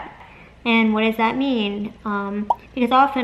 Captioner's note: popping noise